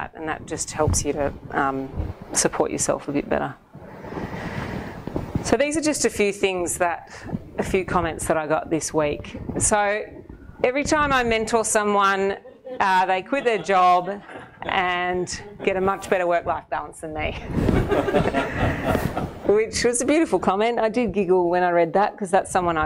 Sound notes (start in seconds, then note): 17.6 audience laughing